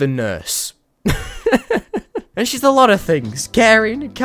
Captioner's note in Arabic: تضحك